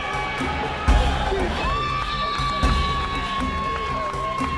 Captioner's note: cheering - Screaming